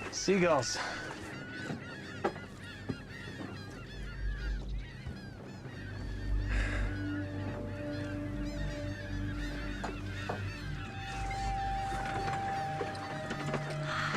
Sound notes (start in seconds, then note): 5.8 seagulls continue mewing